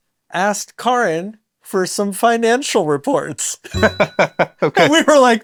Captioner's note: laughs